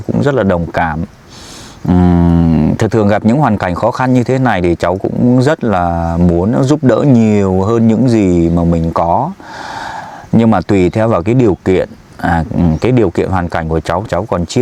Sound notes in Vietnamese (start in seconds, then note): 9.4 thở dài